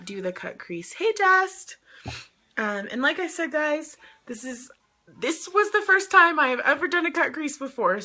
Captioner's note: sniffs